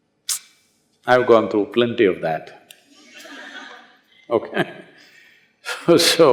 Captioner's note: laughter